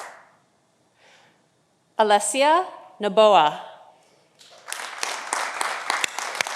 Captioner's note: audience applauding